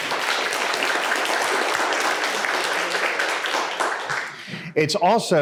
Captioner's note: audience applauds